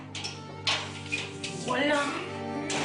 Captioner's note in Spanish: Ruido al abrir la puerta